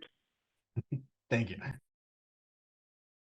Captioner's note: chuckles